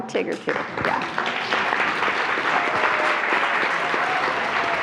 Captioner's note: attendees applauding